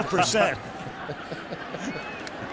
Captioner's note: laughs